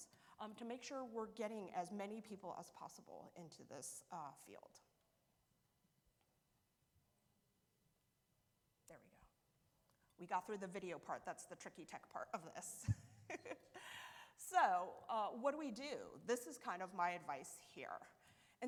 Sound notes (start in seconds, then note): 12.8 chuckles